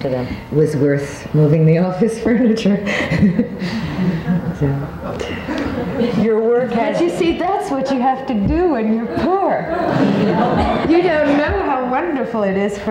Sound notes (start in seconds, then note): 2.9 all chuckling; 9.0 all laughing